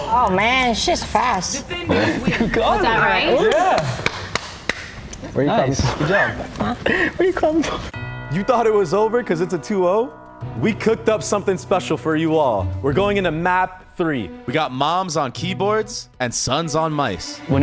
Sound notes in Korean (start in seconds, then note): 3.4 박수; 6.1 웃음